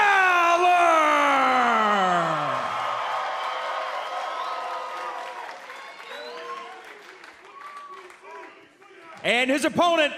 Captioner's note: cheers and applause